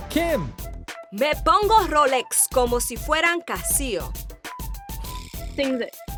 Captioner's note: speaks in foreign language